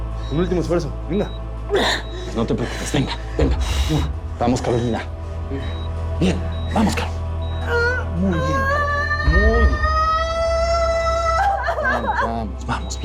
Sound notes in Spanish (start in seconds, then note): 8.3 Gritos; 11.8 Sollozos